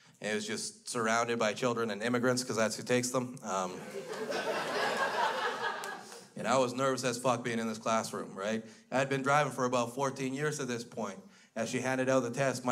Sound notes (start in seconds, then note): 3.8 crowd laughs